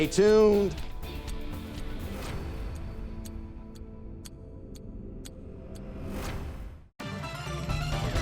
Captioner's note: timer ticking; intense gameshow music